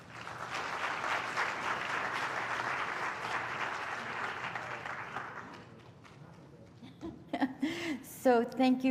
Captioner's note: applause